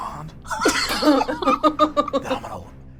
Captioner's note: all laugh